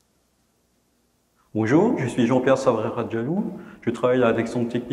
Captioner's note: speaking french